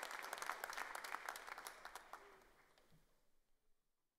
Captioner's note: cheers and applause